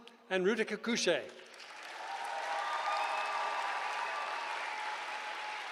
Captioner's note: cheering